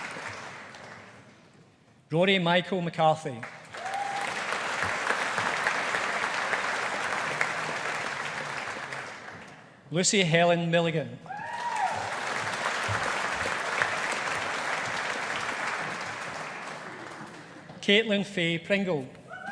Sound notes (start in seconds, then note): 3.4 audience applauding; 11.4 audience applauding